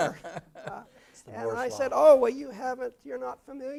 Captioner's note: laugh